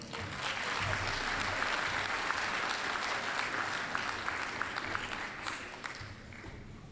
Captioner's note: applause